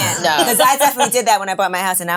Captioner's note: laughing